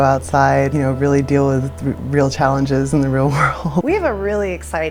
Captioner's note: laugh